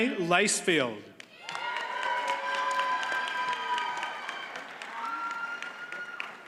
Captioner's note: audience cheers and applauds